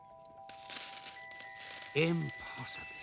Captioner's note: coins clinking